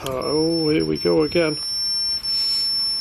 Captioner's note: beeping